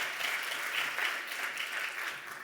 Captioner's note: applause